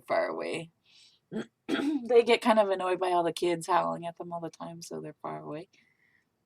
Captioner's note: clears throat again